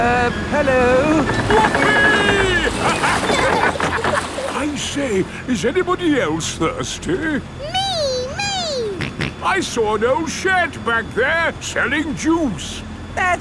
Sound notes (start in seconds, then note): 8.9 snorts